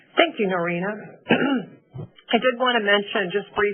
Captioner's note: clears throat